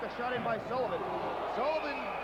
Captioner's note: crowd cheering